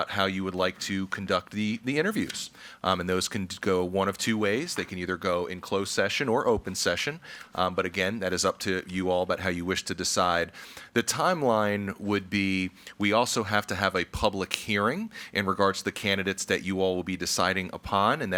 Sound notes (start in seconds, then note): none